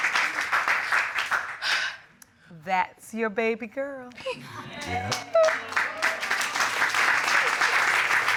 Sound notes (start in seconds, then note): 1.6 sighs; 6.7 audience applauding